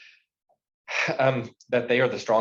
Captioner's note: sighs